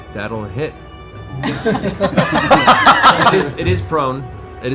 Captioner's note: laughter